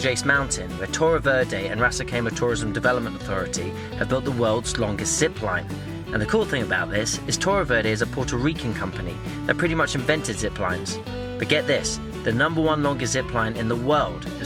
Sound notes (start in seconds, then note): none